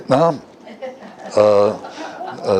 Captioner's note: Смех